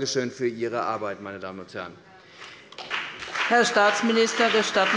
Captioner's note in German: Beifall bei der CDU und dem BÜNDNIS 90/DIE GRÜNEN